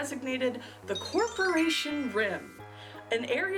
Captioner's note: magic chime